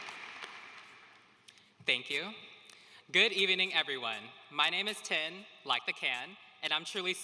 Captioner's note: applause